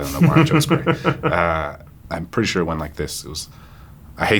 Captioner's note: John chuckles